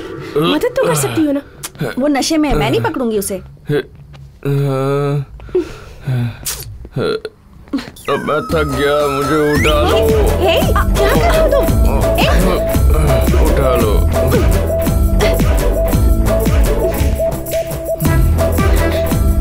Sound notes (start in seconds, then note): 4.4 sighing